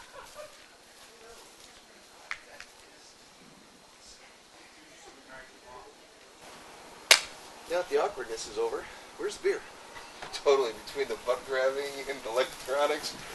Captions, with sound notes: [ hands clap ] Now that the awkwardness is over where's the beer? Totally. Between the butt grabbing and the electronics...